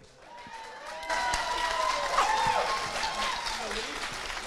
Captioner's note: crowd cheers and applauds